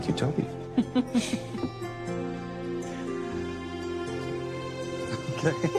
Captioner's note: laughs